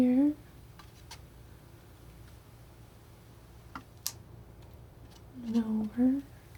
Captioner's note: scratching